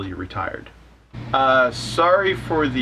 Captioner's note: A/C humming